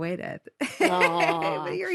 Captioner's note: Rosie laughs